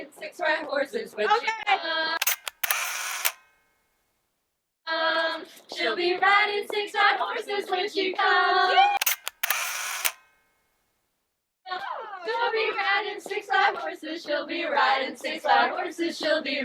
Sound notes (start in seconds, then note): 2.2 camera shutter clicks; 9.0 camera shutter clicks